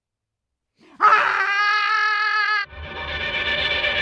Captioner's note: Anne screaming; eerie dramatic music